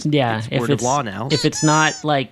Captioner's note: squeaker noise